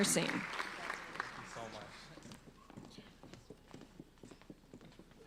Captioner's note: applauding